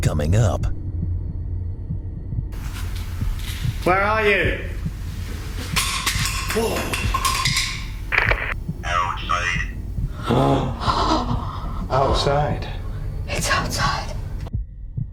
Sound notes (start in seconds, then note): 5.3 crashing sound; 10.0 gasps